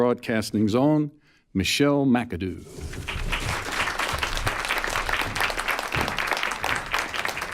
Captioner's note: applause